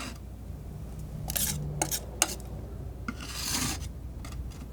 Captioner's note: scratching; scratching